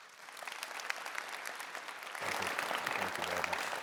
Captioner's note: audience applauding